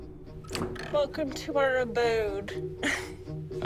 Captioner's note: chuckles